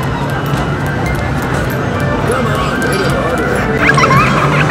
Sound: creepy music; running footsteps; child giggling eerily

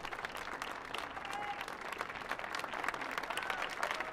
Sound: audience applauding

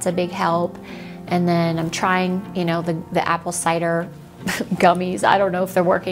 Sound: chuckles

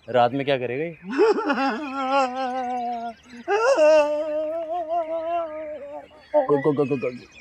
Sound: cries

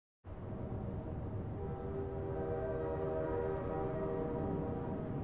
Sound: distant train horn blaring

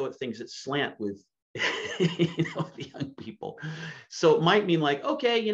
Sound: laughs

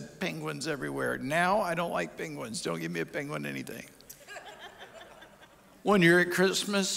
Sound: audience chuckles

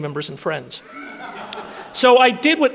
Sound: audience laughing

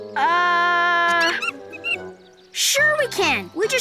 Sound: monkey screeching

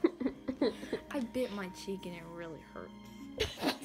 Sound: regular voice; laugh

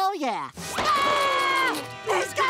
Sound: screaming

